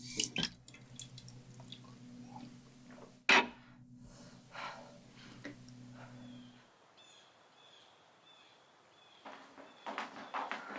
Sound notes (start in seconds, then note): 0.0 water splashes; 4.0 Hannah breathes heavily; 5.9 distant birds squawk